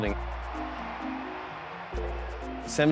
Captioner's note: audience cheering